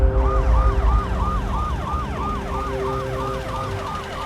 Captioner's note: ambulance siren wails